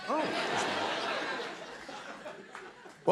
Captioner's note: laughter